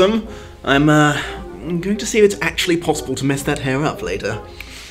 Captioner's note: sotto voce